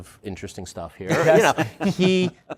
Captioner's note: laughter